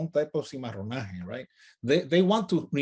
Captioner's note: speaks in native language